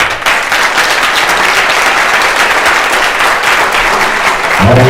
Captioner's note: audience clapping